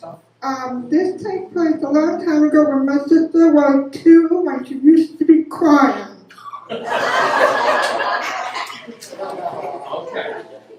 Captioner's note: laughter